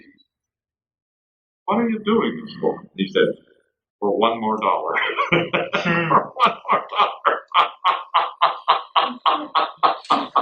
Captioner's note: laughs